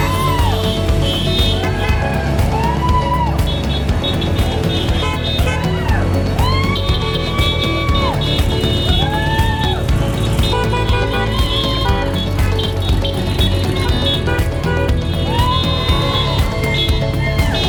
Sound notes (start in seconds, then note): 0.2 crowd cheering; 14.3 crowd cheering